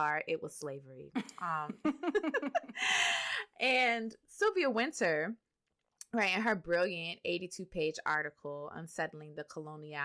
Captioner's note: laughter